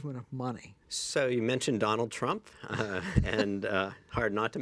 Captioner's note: laughs